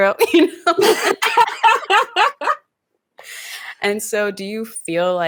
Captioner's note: both laughing